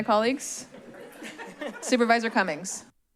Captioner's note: laugh